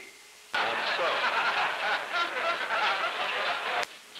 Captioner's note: laughter